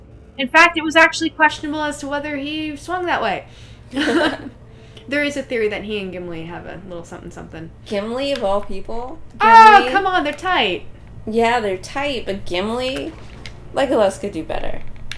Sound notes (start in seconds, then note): 3.9 laughter